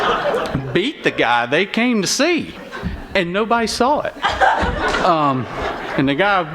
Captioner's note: laughter; laughter